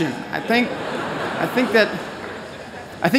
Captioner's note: laughter